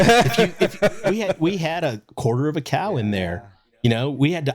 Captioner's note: laughing